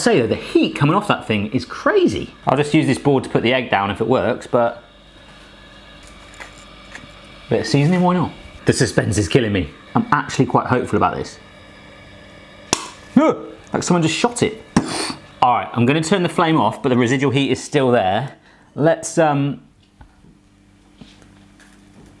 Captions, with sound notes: I've got to say the heat coming off that thing is crazy. I'll just use this board to put the egg down if it works, but yeah, a bit of seasoning. Why not? The suspense is killing me. I'm actually quite hopeful about this. (popping) Oh! Like someone just shot it! All right, I'm gonna turn the flame off, but the residual heat is still there. Let's um ...